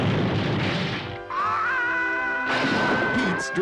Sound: screaming

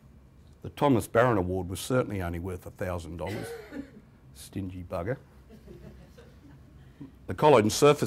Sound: chuckles

